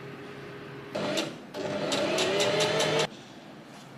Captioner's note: and, you guessed it, sewing machine surges again